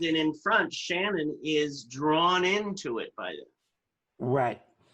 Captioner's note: none